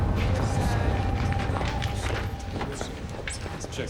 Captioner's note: indistinct background chatter